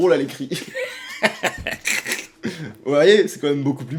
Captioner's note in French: rire